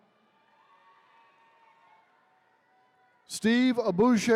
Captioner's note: attendees cheering